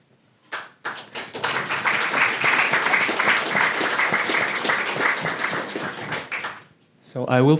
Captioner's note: applause